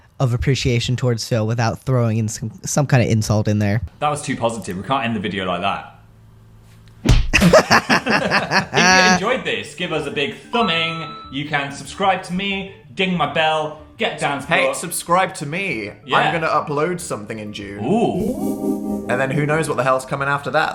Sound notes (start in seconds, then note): 7.0 slap; 7.3 laughter